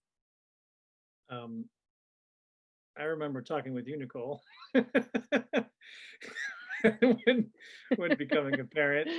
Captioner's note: laughs